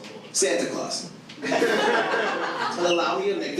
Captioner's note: audience laughs